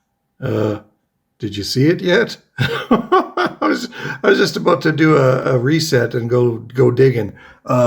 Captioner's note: laughs